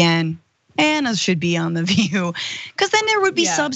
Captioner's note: laugh